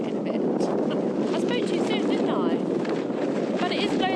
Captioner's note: giggle